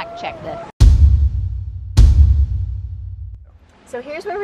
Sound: ominous thudding

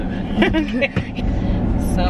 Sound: laughs

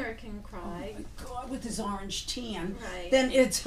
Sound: voiceover

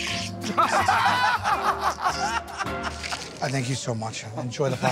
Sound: laughter

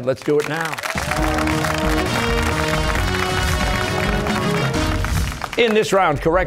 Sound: cheers and applause

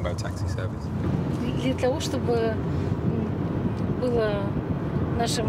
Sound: talking in foreign language

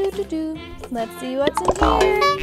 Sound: narrator makes playful noises

